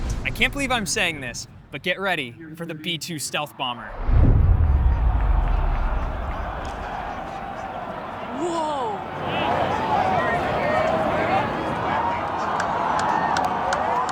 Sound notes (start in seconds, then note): 4.7 crowd vocalizing; 9.5 crowd chattering